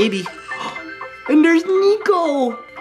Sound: gasps

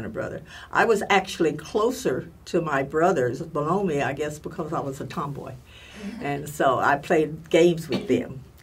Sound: laugh

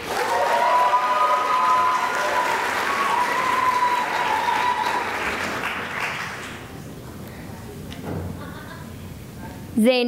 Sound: cheering and applause

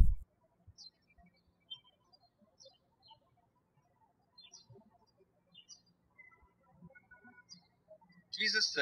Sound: birds chirping

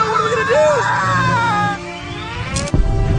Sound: screaming

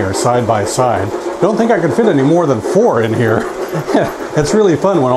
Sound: chuckles

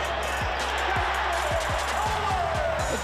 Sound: crowd cheering

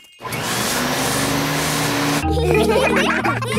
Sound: whirring; all laughing

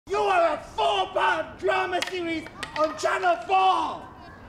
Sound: shouts

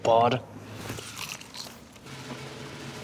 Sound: aggressive crunch

